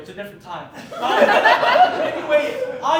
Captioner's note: audience Laughing